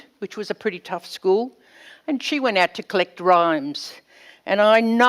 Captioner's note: none